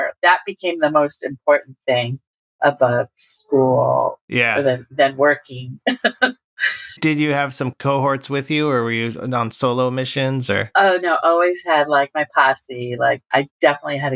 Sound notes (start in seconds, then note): 5.8 laughter